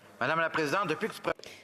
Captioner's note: speaking in French